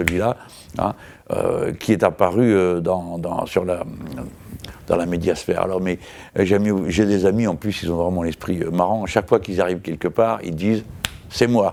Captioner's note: snapping fingers; snapping fingers